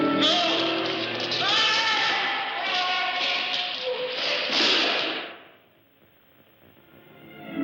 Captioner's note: screams